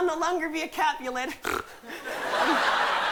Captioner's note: snorts